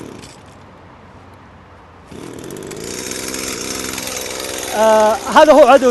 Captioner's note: tree pruner sound